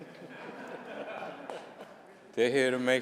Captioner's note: laughter